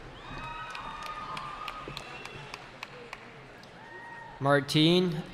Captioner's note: cheering